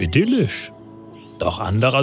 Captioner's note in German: Vogelzwitschern